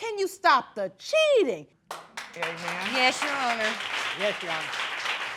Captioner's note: applause